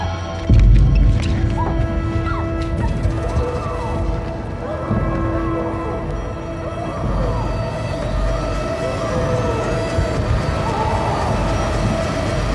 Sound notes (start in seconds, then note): 0.5 foot steps; 5.5 woman screams